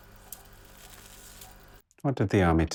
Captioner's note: cigarette hisses